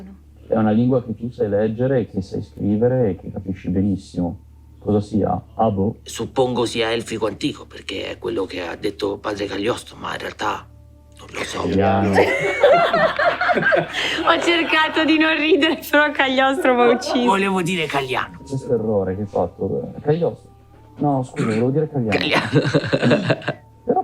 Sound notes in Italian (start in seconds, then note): 12.0 risate